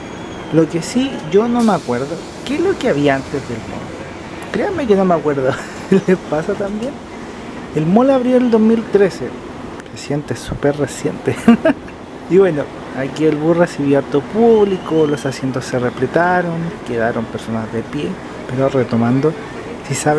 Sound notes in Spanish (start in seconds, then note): 11.3 risas